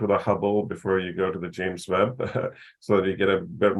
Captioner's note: chuckles